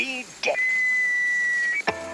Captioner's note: intercom whining; gentle music